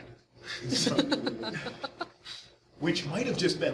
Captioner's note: audience laughing